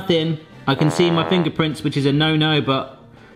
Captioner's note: fail trombone honks